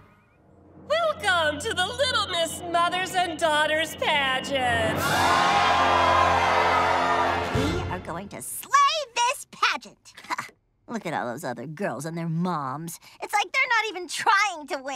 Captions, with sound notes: Welcome to the Little Miss Mothers and Daughters Pageant. [cheering] We are going to slay this pageant. Look at all those other girls and their moms. It's like they're not even trying to win.